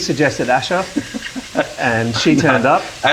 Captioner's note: laughing